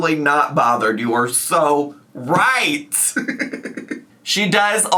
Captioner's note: laughs